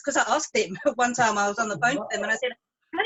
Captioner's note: laughs; chuckles